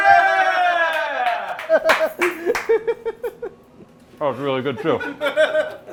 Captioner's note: laughing